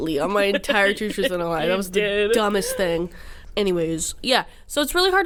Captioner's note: laughs